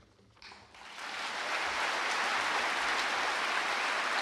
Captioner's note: audience applauding